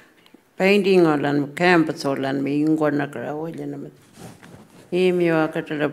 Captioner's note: speaking Anmatyerr